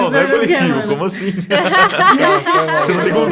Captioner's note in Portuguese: risadas